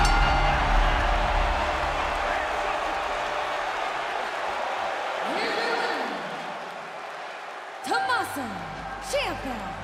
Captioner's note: bell ringing